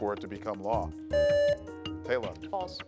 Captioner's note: buzzer beeps